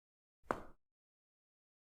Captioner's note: echoed footsteps